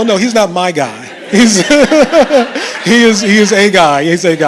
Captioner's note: laughter